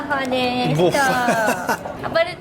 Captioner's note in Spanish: risas